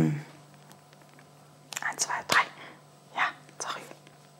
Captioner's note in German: flüstert